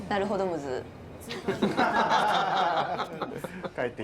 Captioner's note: laughter